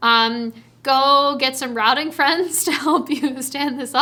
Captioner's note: chuckles